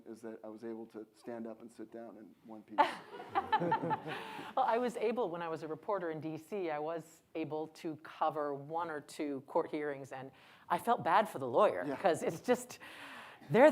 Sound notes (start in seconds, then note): 2.8 audience laughs